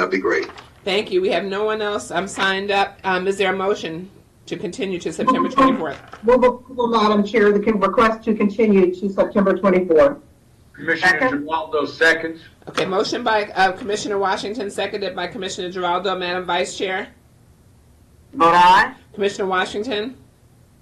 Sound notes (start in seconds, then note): 5.2 radio echoing